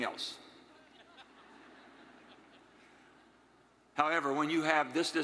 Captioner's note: attendees laughing